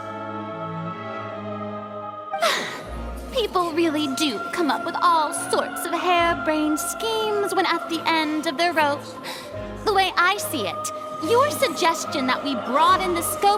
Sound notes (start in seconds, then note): 2.4 sigh